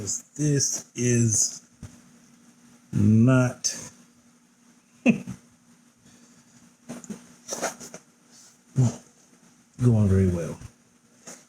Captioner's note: pause with laughter